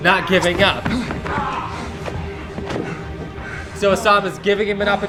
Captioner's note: heavy breathing